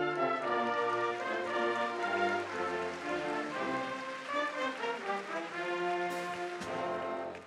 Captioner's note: applause